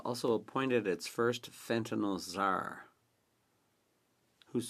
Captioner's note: speaking French